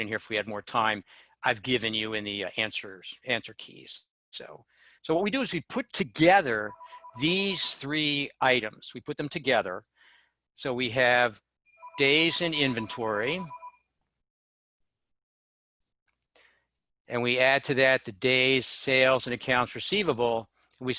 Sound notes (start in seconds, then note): 6.6 phone ringing; 11.7 phone ringing